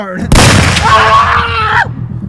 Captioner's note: gun booming; screaming